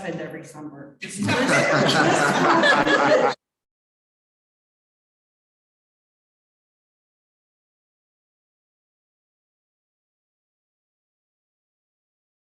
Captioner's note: chuckling